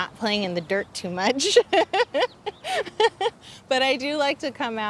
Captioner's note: laughs